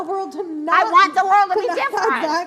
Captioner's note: yelling